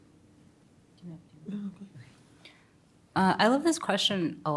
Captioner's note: speaks faintly